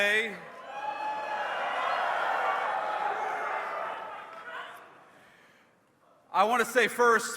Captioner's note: cheers